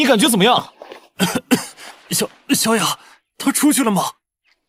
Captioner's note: cough cough